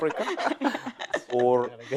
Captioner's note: laughter